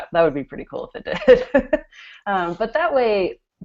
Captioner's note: laughter